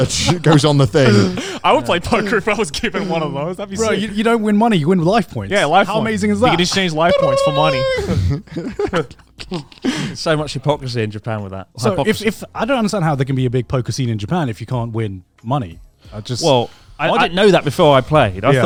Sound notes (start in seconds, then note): 7.6 makes a chiming sound; 8.9 all laughing